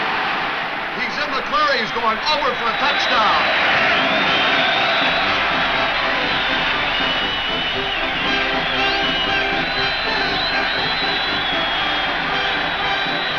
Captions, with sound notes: He's in the clear, he's going over for a touchdown! (crowd cheers) (upbeat band music)